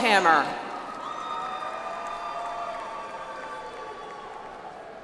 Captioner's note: audience applauds